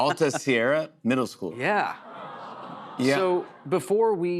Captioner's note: audience "Awws"